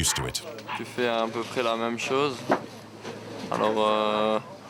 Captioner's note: French spoken audio